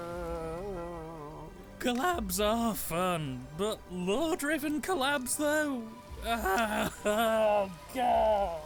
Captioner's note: wails